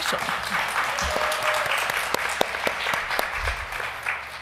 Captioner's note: applause